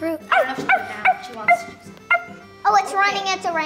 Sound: imitates dog barking

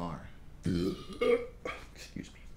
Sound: belching

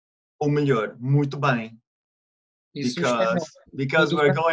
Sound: in Portuguese

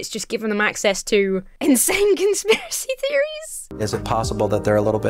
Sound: breaks into laughter

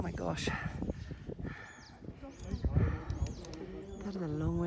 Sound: wind blowing loudly; birds whistling

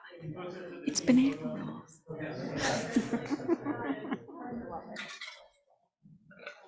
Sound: people chattering; laughs

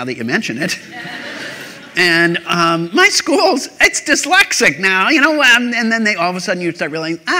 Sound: laughter

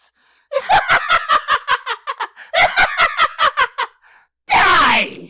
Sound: evil laughter

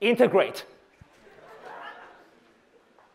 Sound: laughter

